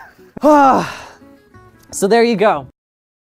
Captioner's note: laughs; deep breath out